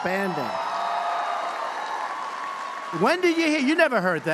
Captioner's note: applause